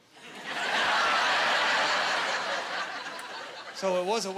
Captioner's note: laughing